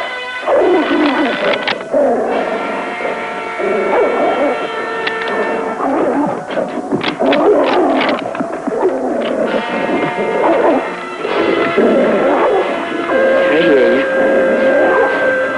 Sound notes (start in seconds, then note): 1.2 gun clicking; 2.0 growling; 6.9 gun clicking; 9.5 growling